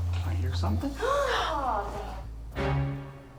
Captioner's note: gasps